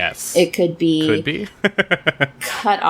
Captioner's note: laughs